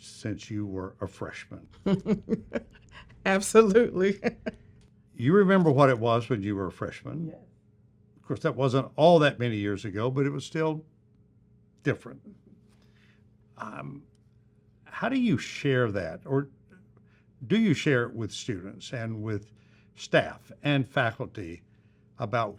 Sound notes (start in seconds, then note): 3.4 chuckles